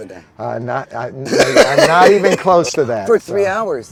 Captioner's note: laughing